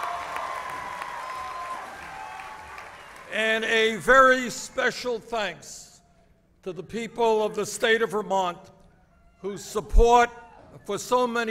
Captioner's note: applause